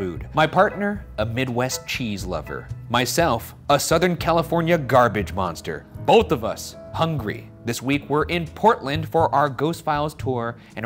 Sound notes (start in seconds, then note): none